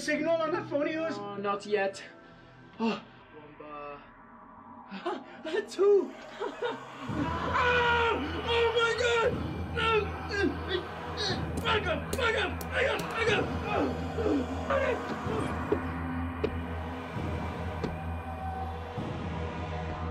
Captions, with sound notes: - Well you got a signal on that phone of yours? - Oh, not yet. (exclaiming) One bar. Ah, two. (laughing) (yelling) Oh, my God, no! (grunting) Bugger, bugger, bugger, bugger!